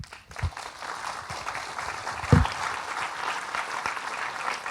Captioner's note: audience applauding